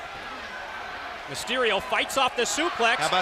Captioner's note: crowd chatter